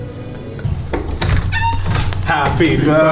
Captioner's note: door squeaks